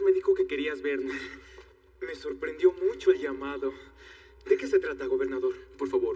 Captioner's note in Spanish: Ríe